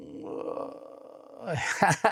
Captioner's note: groans